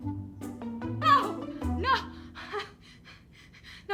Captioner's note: gasping